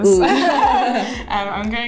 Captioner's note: laughter